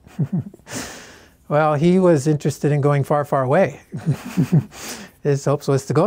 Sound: laughs; laughs

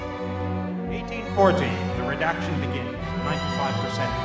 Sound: narrating over music

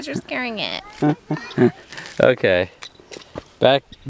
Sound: chuckles

